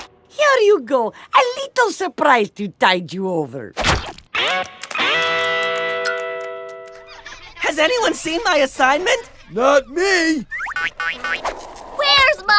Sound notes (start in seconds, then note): 3.0 bag drips